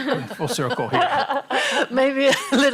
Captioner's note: laughter